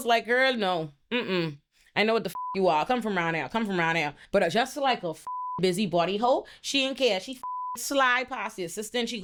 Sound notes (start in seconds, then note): 2.3 beep; 5.2 beep; 7.4 beep